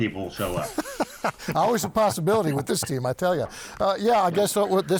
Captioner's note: laughing